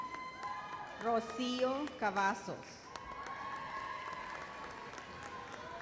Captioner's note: loud cheers